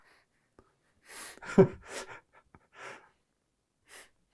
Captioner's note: laughing